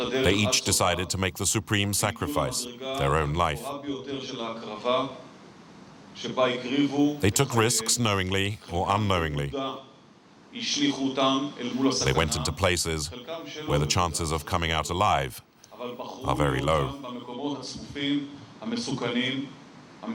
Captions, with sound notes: They each decided to make the supreme sacrifice, their own life. [Hebrew spoken audio] They took risks, knowingly or unknowingly. They went into places where the chances of coming out alive were very low. [Hebrew spoken audio]